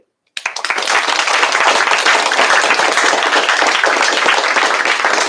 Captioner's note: applause